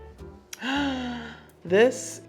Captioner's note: Serena gasping